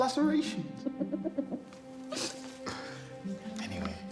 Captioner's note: Dana laughing